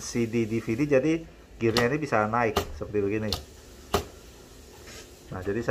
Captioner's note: gear sound